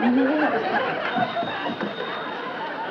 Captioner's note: laughter from audience; phone still ringing